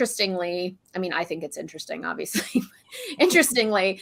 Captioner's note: laughter